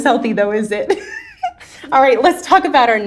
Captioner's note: woman chuckling